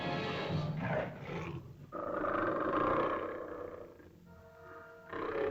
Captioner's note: suspenseful music; lizard growls; ominous music; lizard grumbles